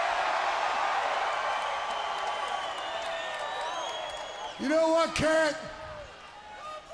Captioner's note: crowd cheering